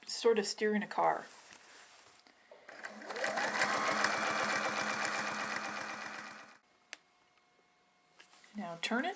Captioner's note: sewing machine sounds